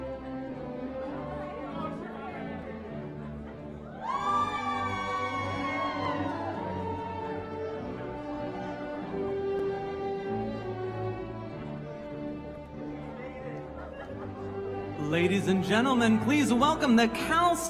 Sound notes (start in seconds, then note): 9.7 cheering